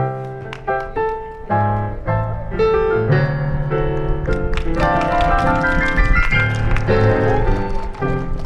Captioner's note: applause and ♬♬ piano ♬♬